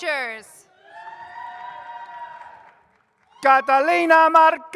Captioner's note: audience cheers